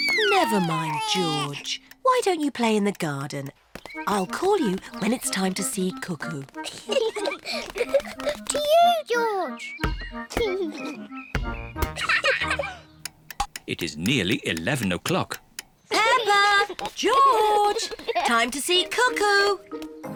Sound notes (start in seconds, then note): 6.6 both laugh